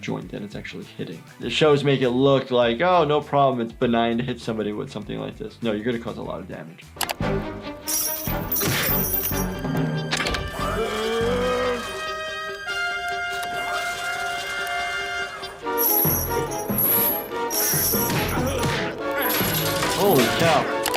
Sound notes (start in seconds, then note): 6.8 mouse clicking; 7.8 chains rattling; 13.8 triumphant music